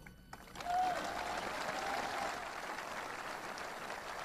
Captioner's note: audience applauding